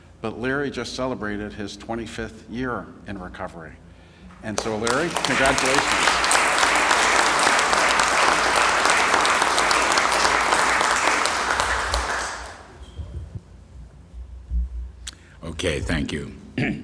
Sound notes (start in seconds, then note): 10.3 applause